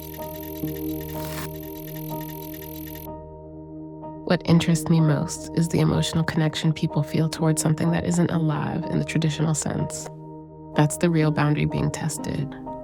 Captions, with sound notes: [gentle static] What interests me most is the emotional connection people feel towards something that isn't alive in the traditional sense. That's the real boundary being tested.